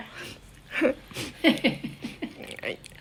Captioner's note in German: lachen